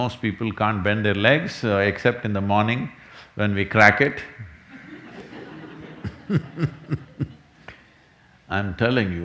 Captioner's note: laughs